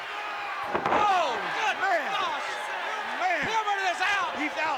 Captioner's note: commentators exclaim